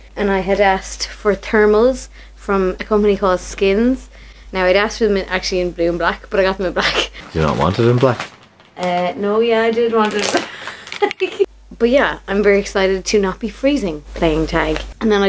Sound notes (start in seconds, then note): 10.4 laughs